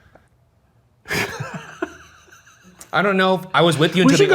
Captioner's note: Shane laughs